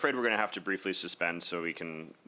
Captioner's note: speaking French